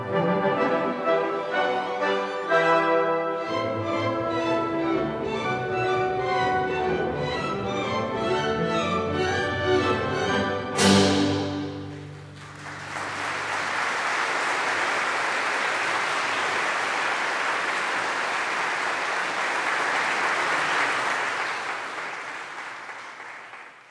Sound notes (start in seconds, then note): 12.0 audience applauding; 19.9 audience applause continues